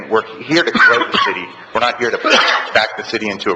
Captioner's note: man coughs